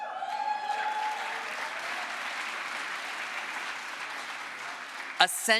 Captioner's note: crowd applause